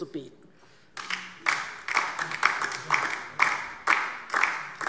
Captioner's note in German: Beifall